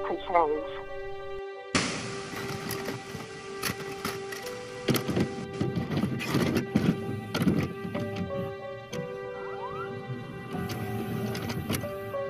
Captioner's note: sound of VCR starting